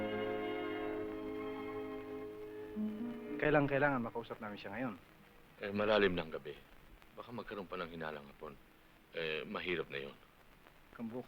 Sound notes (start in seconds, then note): 2.9 non-english speech